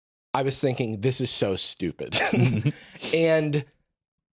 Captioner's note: laughs